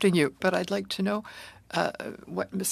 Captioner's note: speaking French